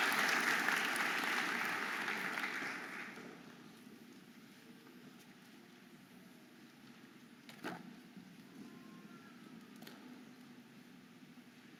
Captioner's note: audience applauding and cheering